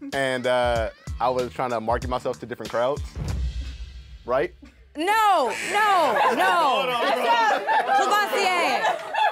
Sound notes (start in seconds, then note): 5.5 group laughs